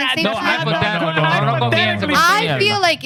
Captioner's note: speaking Spanish